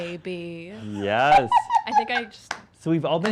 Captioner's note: laughter